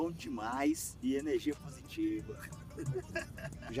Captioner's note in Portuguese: risada